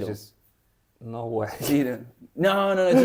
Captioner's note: laughs